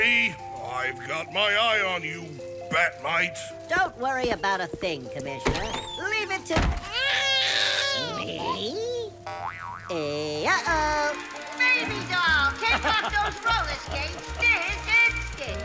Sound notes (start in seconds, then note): 5.4 door opens and closes; 6.9 cries; 10.4 projector rolling; 12.5 laughs